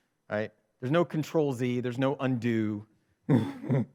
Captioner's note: chuckles